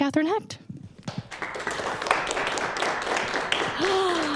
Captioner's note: applause